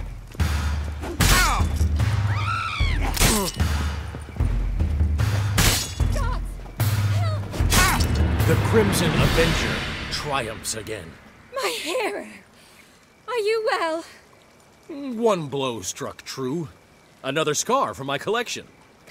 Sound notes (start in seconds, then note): 2.1 scream